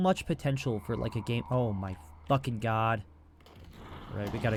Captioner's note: shrieker shrieks